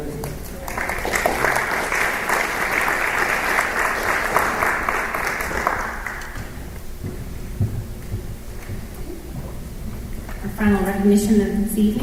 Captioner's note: applause